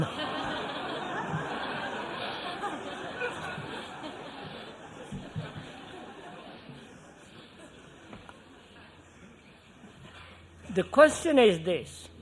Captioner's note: laughter